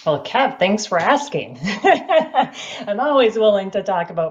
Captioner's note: chuckles